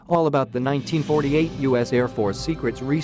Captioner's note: and crash